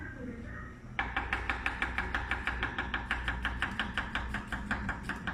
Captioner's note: knife knocking